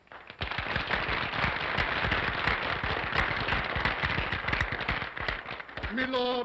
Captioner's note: applause